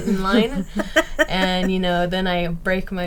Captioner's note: laughing